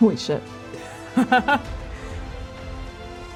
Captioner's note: laughing